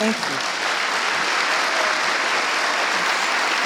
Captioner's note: audience applauding